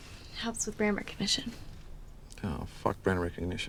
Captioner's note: none